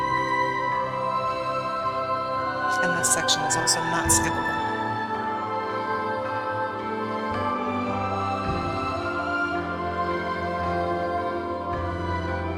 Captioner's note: laughter